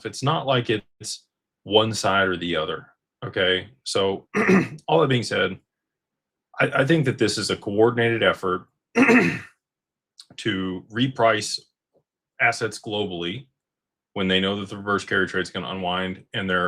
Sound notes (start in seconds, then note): 5.4 clears throat